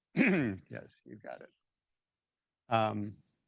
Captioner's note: clears throat